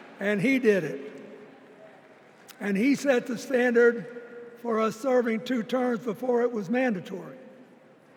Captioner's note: applause